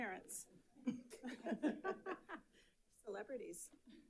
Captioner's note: audience laughing